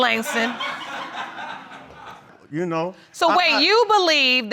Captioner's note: audience laughs